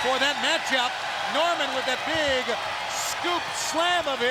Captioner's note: crowd cheering